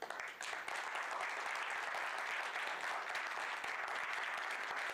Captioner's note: people clapping